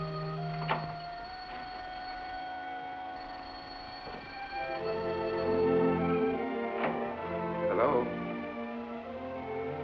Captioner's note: phone ringing